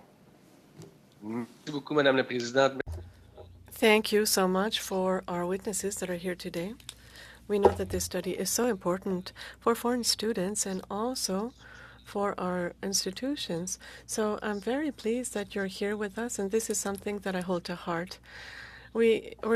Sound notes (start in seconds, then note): 6.0 speaking French